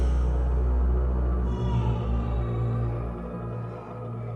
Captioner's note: distant baby cry